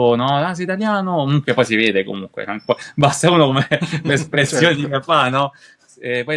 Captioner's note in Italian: risate